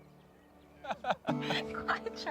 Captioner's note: chuckling